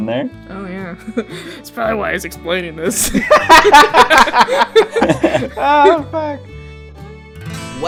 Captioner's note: laughter